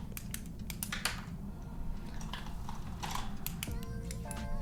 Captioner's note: pen clicking